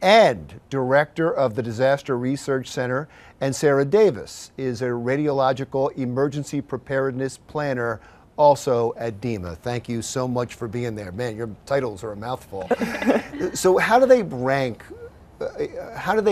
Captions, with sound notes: and director of the Disaster Research Center. And Sarah Davis is a radiological emergency preparedness planner, also at DEMA. Thank you so much for being there. Man, your titles are a mouthful. (laughs) So how do they rank,